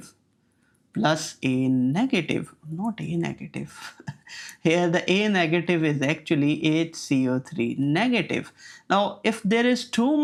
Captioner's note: chuckles